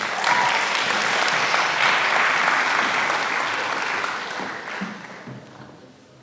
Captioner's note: applause